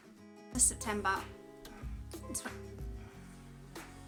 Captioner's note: notification sounds